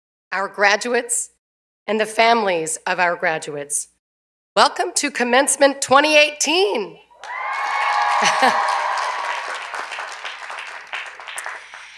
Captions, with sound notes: FACULTY, STAFF, OUR GRADUATES AND THE FAMILIES OF OUR GRADUATES, WELCOME TO COMMENCEMENT 2018. [CHEERS AND APPLAUSE]